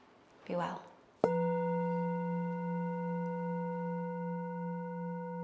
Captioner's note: gong resounding